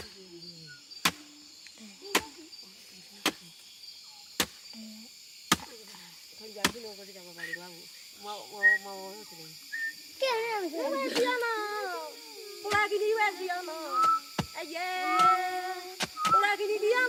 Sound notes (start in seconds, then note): 0.1 chopping Sound; 7.1 whistling And Speaking In Foreign Language; 14.1 singing In Foreign Language, Chopping Sound, And Whistling